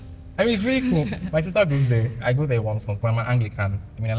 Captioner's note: laughs